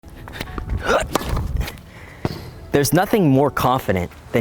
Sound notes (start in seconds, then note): 0.4 ball hit